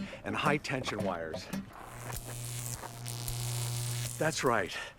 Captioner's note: electric buzzing